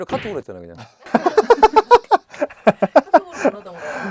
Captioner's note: just laughing